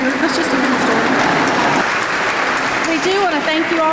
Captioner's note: applause